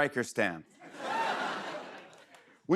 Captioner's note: laughter